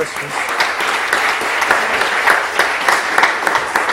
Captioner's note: applause